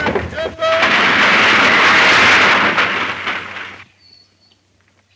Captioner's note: tree crashing